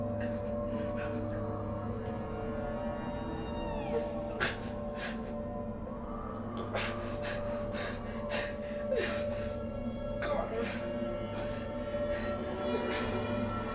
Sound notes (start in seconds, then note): 4.5 intensifying music; 4.5 softly sobbing